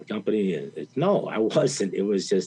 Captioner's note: chuckles